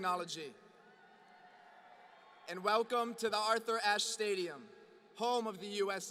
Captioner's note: applause